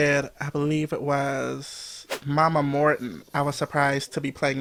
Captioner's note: whoosh